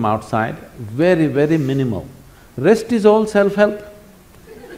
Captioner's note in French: rire